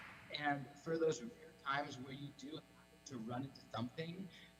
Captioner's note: applause